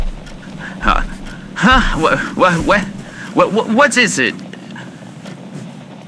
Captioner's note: blankets shifting fx